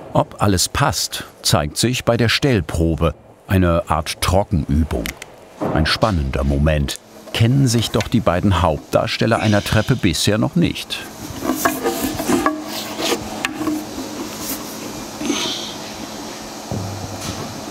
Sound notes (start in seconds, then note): 12.0 clatter; 15.2 groan